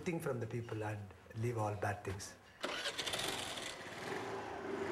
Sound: engine turns over

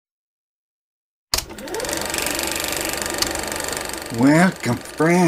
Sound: projector Noise

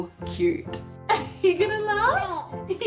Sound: giggles

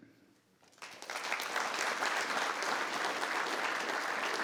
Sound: audience clapping

